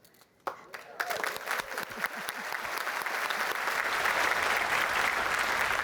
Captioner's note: applause